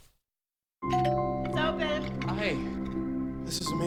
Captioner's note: door bell rings